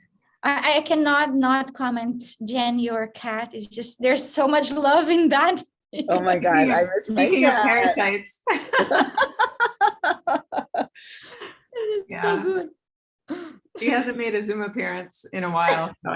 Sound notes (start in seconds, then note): 5.6 chuckles; 8.4 laughter